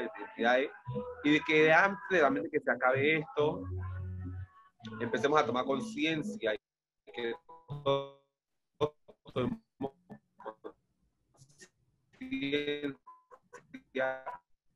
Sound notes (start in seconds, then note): 7.5 sound cuts out